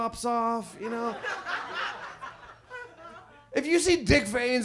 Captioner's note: audience laughs